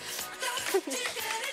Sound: chuckle

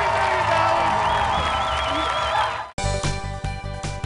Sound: cheers and applause

